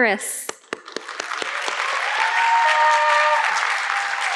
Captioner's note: audience clapping